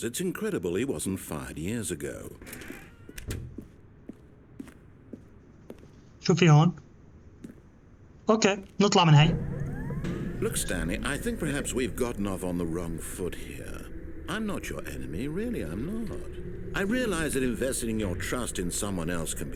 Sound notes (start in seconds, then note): 2.3 door opening